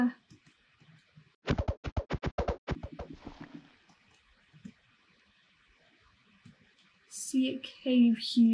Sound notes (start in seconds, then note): 1.4 whacking noises